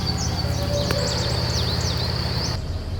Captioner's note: distant howl